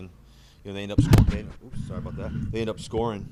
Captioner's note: microphone scuffling